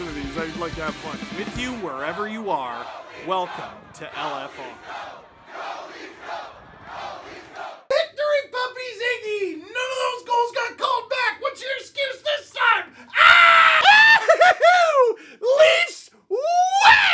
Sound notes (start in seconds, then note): 11.5 laughter